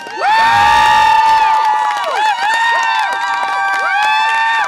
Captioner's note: audience applause and cheer